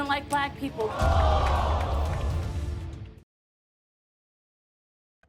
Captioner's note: audience gasps